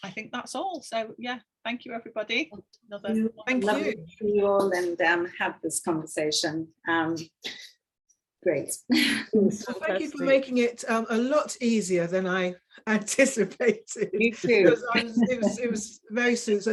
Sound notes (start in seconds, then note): 14.8 women chuckling